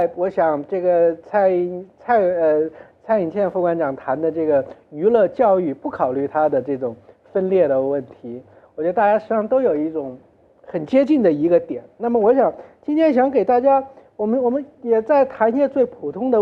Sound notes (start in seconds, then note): none